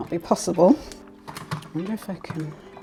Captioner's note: laugh